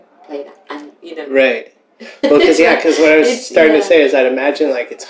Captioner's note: laughter